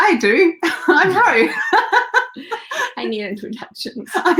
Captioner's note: laughter